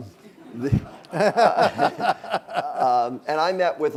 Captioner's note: laughing